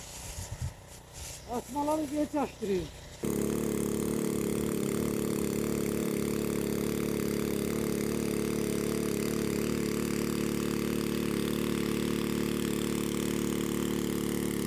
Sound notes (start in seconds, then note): 0.2 the sound of the sprinkler while spraying; 3.6 sound of water pump